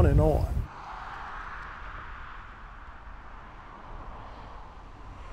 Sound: traffic rumbles

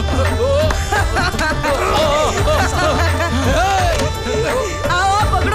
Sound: laughs

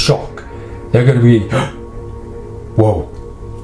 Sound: gasps

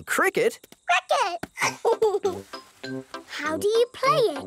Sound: giggles

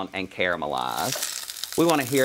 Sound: sizzle

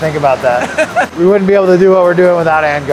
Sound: laughs

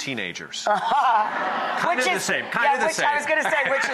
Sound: laughs

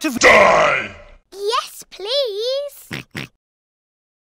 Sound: pig sounds

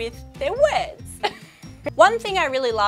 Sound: she laughs

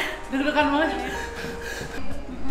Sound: heavy breathing

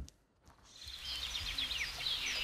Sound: birds chirping

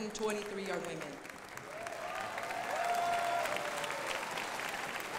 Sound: crowd applauding

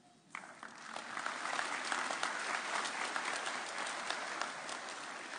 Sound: applauding

